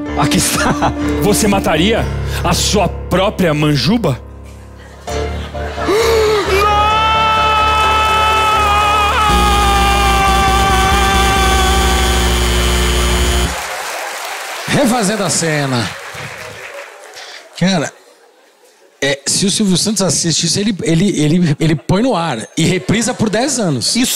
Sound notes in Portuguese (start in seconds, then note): 7.6 campainha e aplausos